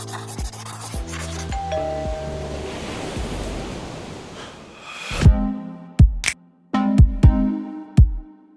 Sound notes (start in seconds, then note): 1.5 doorbell chiming; 5.2 upbeat music